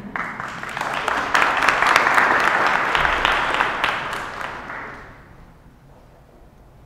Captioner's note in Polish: oklaski